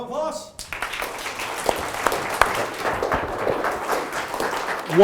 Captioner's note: crowd applauds